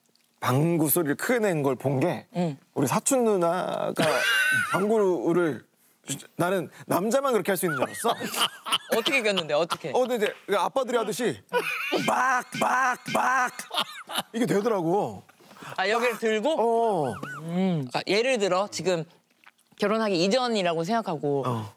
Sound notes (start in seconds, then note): 7.7 ahahaha